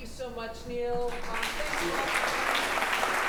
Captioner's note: applause